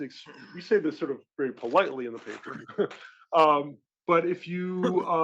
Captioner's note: laugh